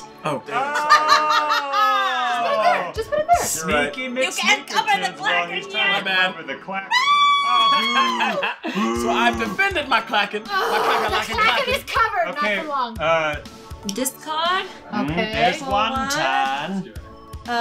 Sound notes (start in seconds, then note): 0.6 laughing; 7.0 shouting; 12.3 groans